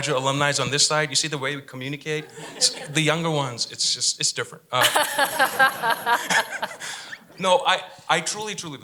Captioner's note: laughter